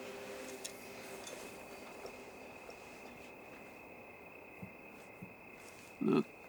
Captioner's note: crickets chirping